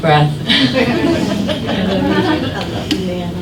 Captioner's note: laughing